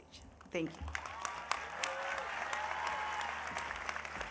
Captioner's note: audience applauding